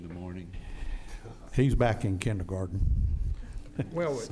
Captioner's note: laughing